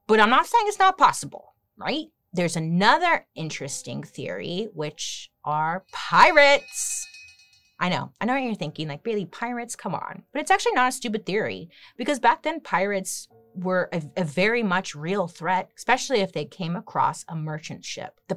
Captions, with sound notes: But I'm not saying it's not possible, right? There's another interesting theory, which are pirates! (bell dings) I know. I know what you're thinking. Like, Bailey, pirates, come on! But it's actually not a stupid theory, because back then pirates were a very much real threat, especially if they came across a merchant ship.